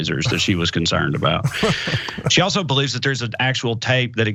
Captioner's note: laugh